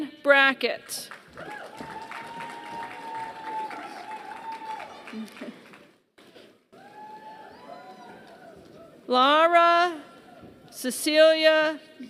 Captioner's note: applause